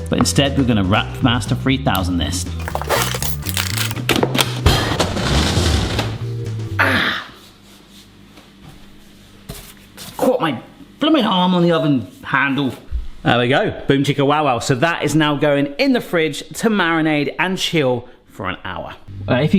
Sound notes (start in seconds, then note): 4.3 Wrapmaster clicks; 6.9 groans